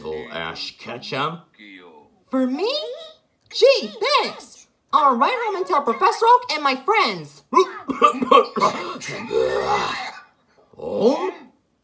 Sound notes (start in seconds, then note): 7.4 Bowser coughing